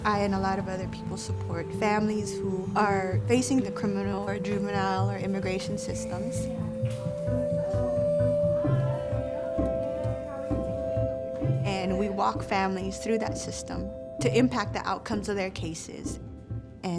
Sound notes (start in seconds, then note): 6.7 light music; 8.7 people chattering in background